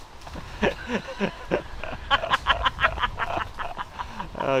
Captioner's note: Calvin laughs; laughter